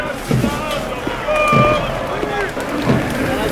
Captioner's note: crowd chattering